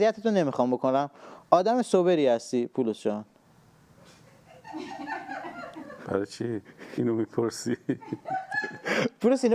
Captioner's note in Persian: خنده